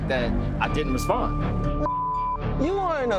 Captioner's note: beeps